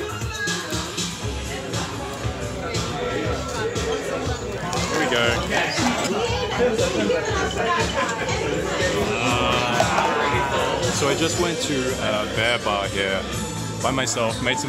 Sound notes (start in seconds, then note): 0.1 people chatting; 5.6 dice clinking; 6.7 people chatting